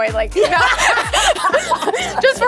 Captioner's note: laughter